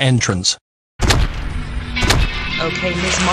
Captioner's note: stomping